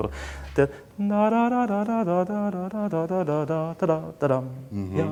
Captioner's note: humming